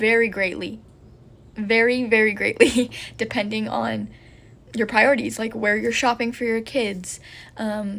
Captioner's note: laughs